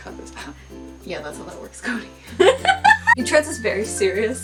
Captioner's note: laughing